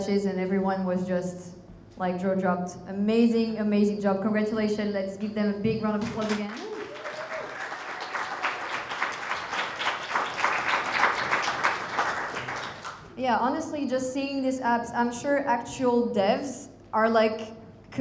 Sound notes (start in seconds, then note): 6.2 crowd applauding; 6.4 crowd cheering